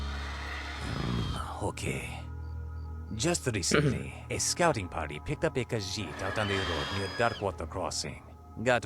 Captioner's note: grumble